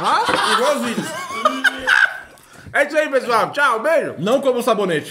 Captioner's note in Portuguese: risos